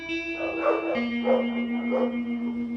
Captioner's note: dog barks